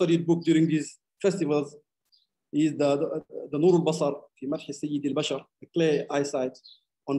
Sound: speaking arabic

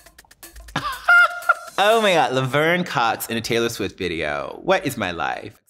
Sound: laughs

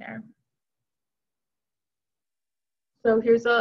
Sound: silence

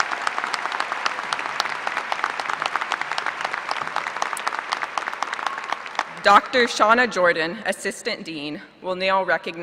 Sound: applause

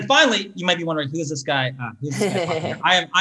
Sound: laughs

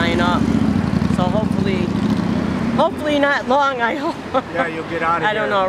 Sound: laughs

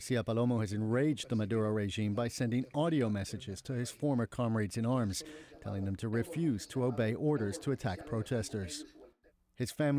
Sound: speaking Alternate Language

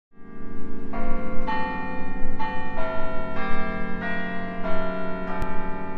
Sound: bell rings

